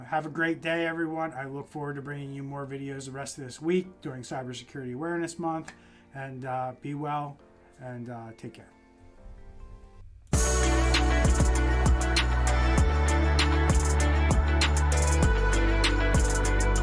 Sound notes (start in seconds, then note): 5.6 hands clapping; 10.3 upbeat music